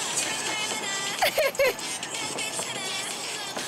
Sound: haha

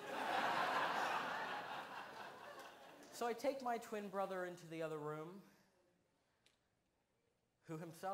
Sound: laughter

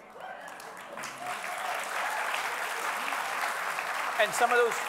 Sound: audience applauding

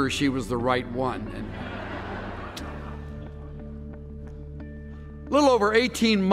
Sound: laughter

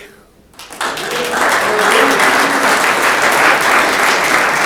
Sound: room applauds

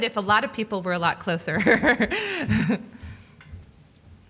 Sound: laughing

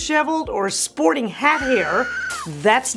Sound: woman screaming

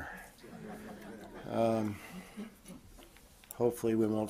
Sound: audience chuckles

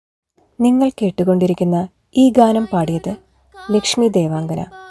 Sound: radio playing

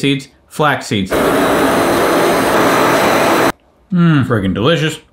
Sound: blender running

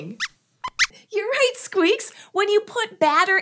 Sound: squeaks squeaks

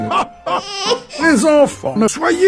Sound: cry

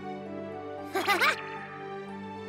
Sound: chuckles

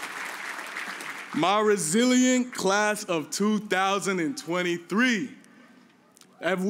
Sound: cheers and applause

